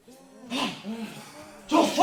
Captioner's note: heavy Breathing